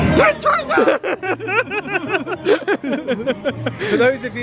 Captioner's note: both laugh